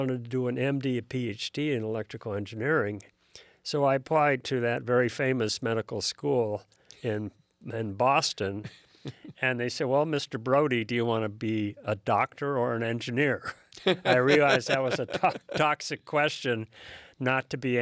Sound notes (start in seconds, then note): 13.4 laughs